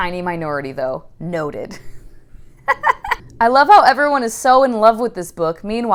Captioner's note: laughing